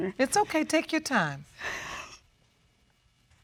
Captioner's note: sobs